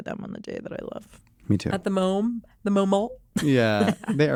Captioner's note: laughs